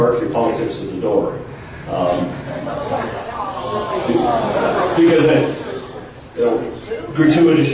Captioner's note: groans in the audience